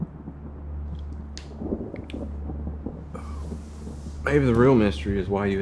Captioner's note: thunder rumbling